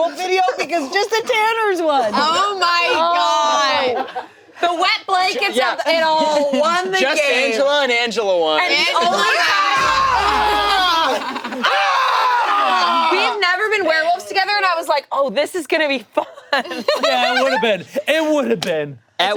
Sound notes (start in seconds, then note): 9.4 screaming